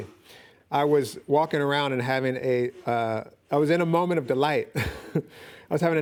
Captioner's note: chuckles